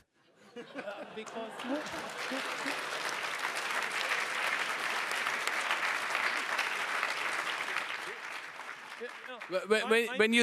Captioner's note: laughing and clapping